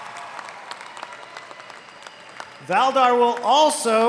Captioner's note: applause